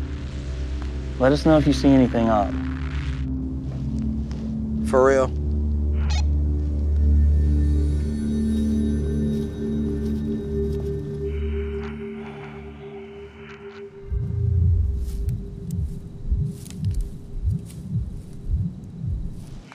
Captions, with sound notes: Let us know if you see anything odd. For real? (Sonar Pulse) (faint heartbeat)